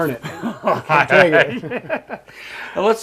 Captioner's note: laughing